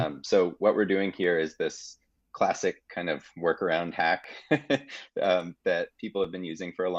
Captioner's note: laughing